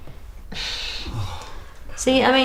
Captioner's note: groans